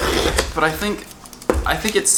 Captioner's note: slicing open box